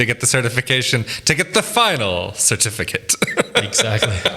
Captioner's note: laughs